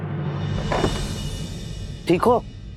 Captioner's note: door opening